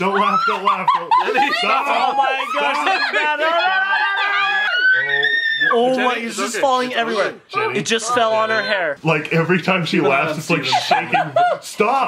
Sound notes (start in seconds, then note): 3.5 screaming